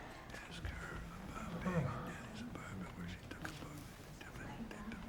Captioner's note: whispering softly